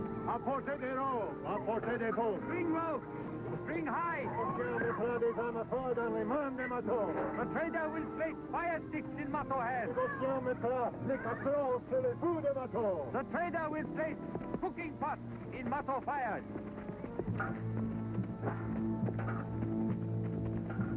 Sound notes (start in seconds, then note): 0.1 speaking french; 4.4 speaking french; 10.1 speaking french